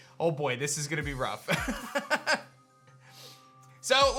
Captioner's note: laughs